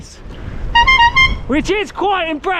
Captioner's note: squeaky Horn